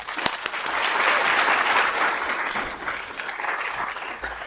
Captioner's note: audience applauds